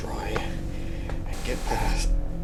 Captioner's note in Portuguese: Áudio pulando